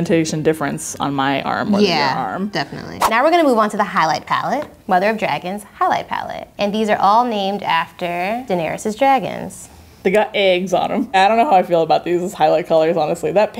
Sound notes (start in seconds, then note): none